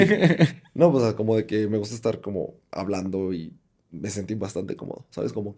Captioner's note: laughs